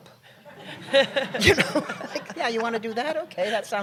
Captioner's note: laughter